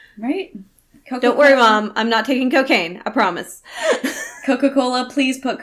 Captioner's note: laughs